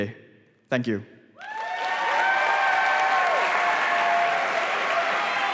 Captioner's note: applause